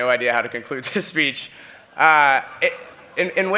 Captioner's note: laughter